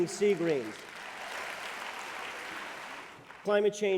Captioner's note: applause